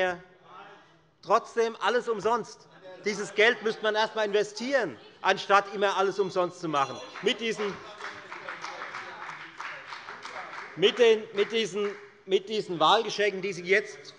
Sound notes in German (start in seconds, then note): 6.9 Beifall bei der FDP - Unruhe - Glockenzeichen der Präsidentin